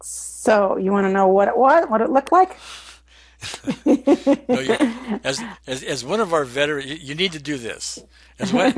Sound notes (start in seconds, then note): 3.4 laughs